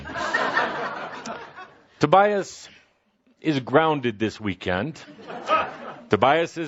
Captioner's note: laughter